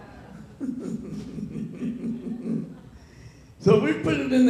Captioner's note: laughs